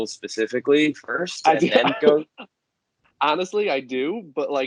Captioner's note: laughs